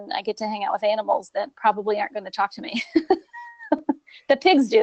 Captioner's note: laughing